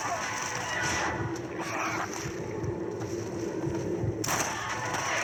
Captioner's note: sounds of cold blood and shoots; sounds of footsteps and zombies